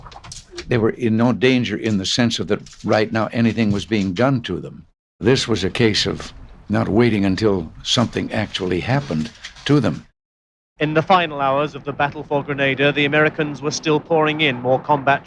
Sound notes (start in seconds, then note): 9.9 soundbite of archived recording